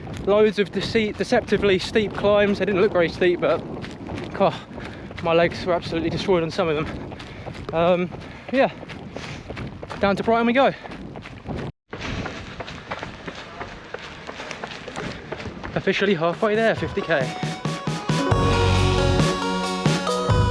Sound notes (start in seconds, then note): 12.0 ground crunches; 16.4 upbeat music